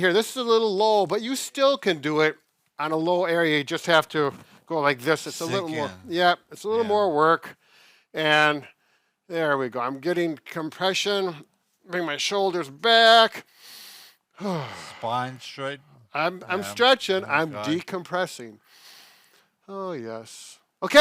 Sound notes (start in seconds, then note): 14.3 breathes deeply